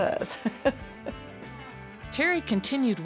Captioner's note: laughter